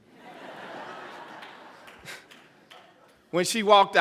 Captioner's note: laughter